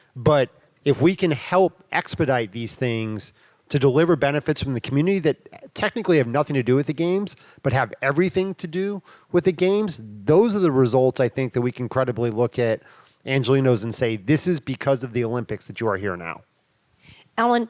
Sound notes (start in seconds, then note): none